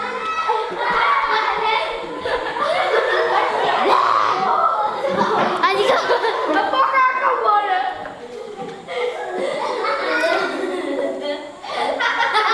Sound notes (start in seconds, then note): 1.0 kids giggling